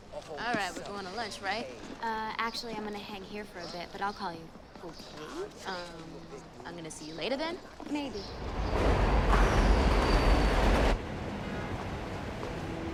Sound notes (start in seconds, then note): 8.2 subway cars rumbling